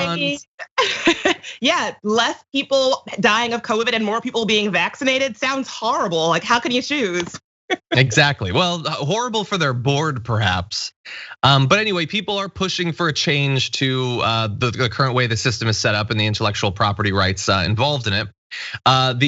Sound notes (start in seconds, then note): 0.6 laugh; 7.7 laugh